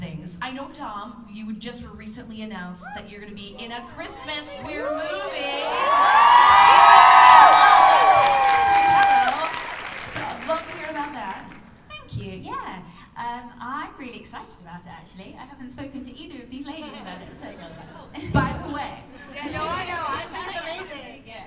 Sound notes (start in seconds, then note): 4.5 cheers and applause